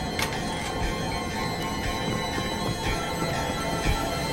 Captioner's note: lock clattering